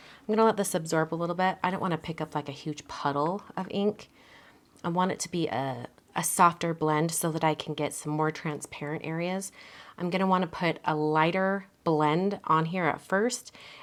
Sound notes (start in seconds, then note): none